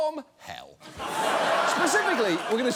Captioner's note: studio audience laughs